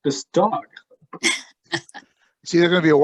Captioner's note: laughter